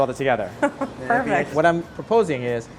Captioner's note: chuckles